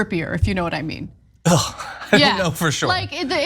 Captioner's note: laugh